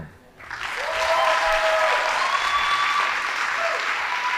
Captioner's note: audience applauding